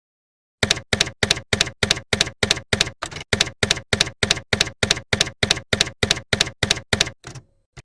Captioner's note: typewriter keys clacking